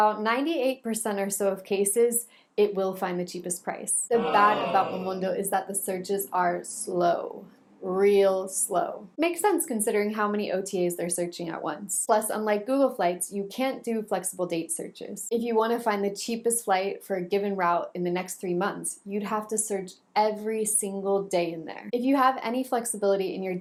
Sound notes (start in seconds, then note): 4.5 booing noises